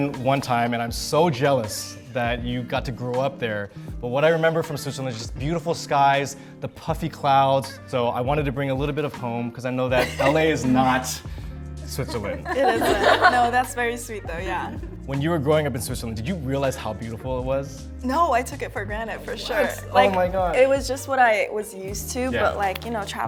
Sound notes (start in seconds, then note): 10.0 laughs; 12.0 members laugh